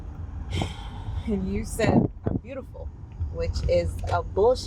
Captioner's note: sighs